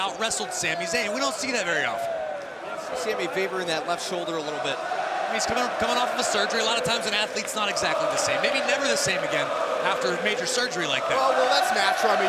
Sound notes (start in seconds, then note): 5.1 crowd cheering